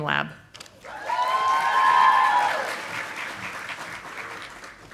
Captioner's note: audience applauding